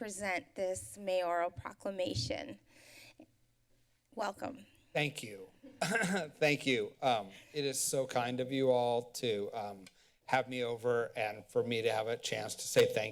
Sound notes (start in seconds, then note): 5.7 clears throat